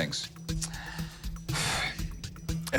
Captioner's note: sighs